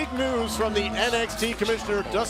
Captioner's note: crowd cheering